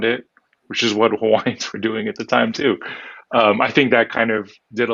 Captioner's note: laughs